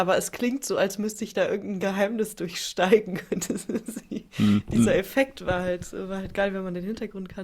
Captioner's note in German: gelächter